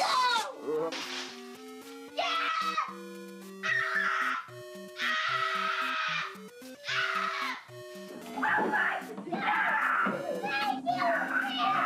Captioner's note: screaming